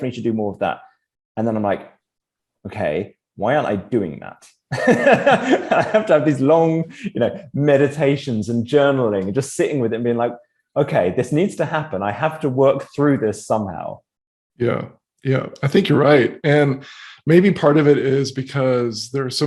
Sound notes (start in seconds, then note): 4.8 laughs